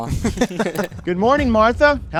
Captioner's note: attendees laughing